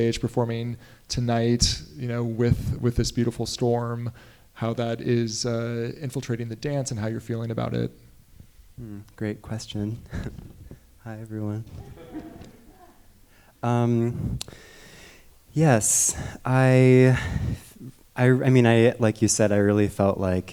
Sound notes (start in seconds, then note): 11.6 audience members chuckling; 11.6 chuckles